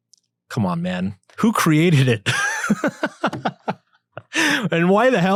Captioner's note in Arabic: يضحك